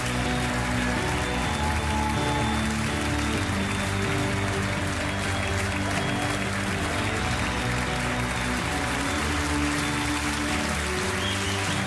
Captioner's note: audience applauding